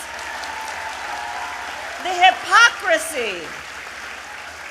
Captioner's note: applause